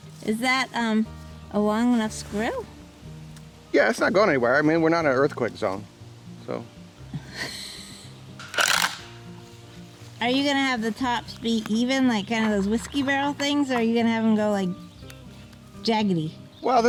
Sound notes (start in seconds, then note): 7.1 woman laughing; 8.4 creaking